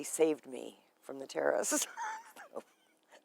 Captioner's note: laughing